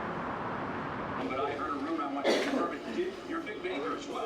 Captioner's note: TV playing; cars passing; coughing; TV playing